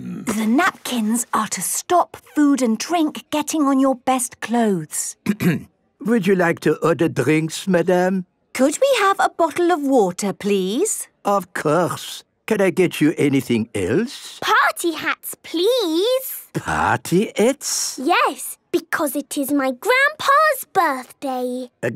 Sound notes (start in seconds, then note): 5.2 clears throat